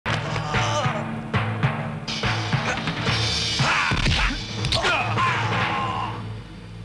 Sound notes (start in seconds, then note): 4.4 crack